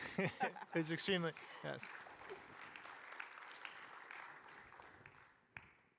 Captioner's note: applause